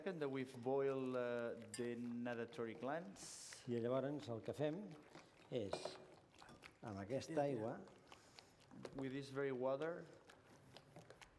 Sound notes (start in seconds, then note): 4.5 non-english speech